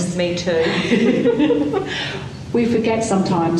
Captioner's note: laughing